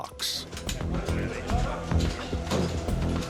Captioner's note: indistinct chatter